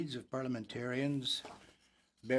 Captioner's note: speaking French